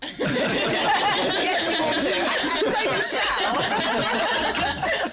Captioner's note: chuckles; laughter